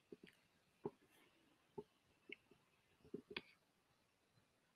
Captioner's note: mouse clicking